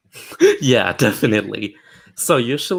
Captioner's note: chuckles